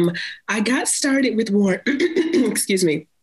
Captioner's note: clears throat